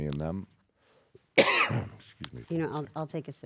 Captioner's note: cough